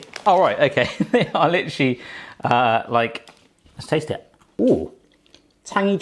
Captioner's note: laughs